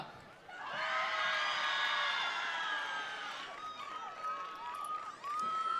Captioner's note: attendees cheering; attendees applauding